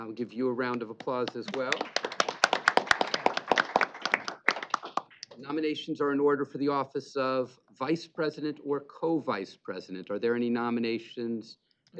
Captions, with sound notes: Give you a round of applause as well. [applause] Nominations are in order for the Office of Vice President or Co-vice President. Are there any nominations therefore--